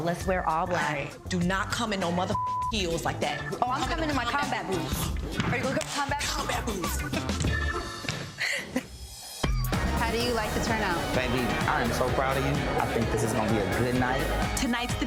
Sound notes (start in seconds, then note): 8.3 laughing